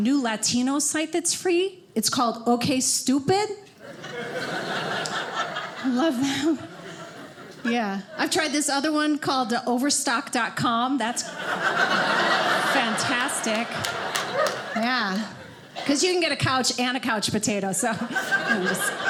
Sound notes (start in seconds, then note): 3.8 audience laughing; 11.2 audience laughing